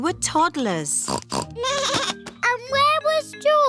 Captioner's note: snorts; bleats